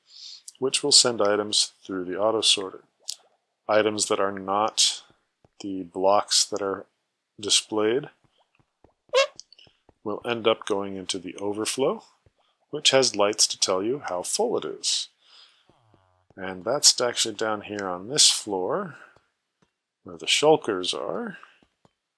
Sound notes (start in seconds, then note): 9.1 squeak